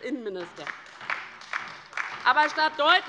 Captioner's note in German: Beifall bei der LINKEN